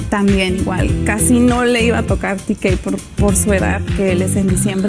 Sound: speaking in Spanish

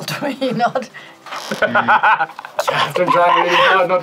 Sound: laughs

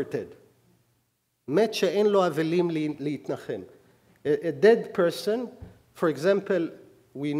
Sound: speaking hebrew

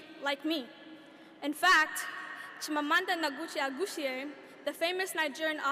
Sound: speaking a foreign language

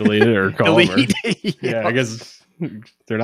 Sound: laughing

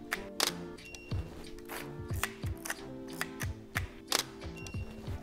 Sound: camera shutter clicks

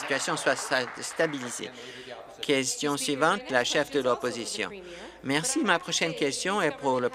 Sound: applause

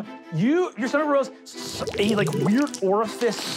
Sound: gurgling

